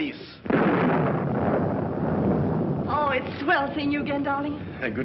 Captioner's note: thunder